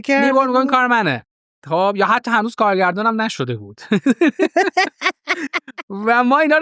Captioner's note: laughs